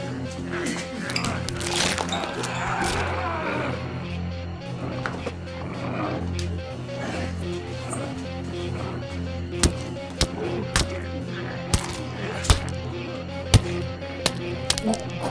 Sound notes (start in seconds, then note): 1.4 flesh crunching; 9.7 bones cracking